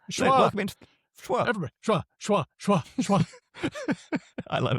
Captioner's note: laughs